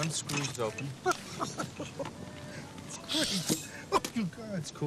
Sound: laughs

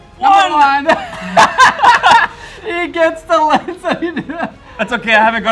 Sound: laughs

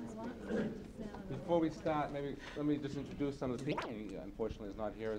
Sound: man talking

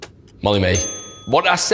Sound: correct bell

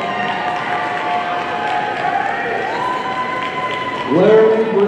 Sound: audience cheering and applauding

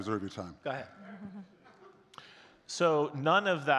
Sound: chuckling

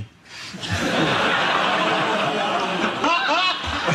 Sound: audience laughs

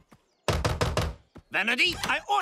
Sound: knocking

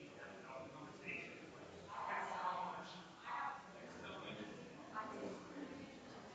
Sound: people chattering distantly continues

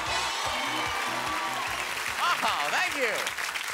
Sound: cheers and applause

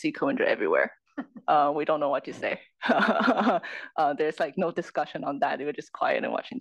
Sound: laugh

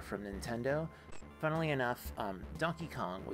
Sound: static

